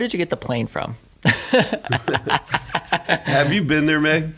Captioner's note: laughing